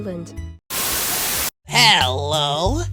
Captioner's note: Static